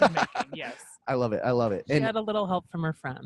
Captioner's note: laughs